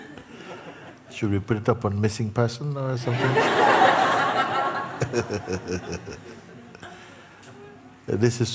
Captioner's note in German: Lachen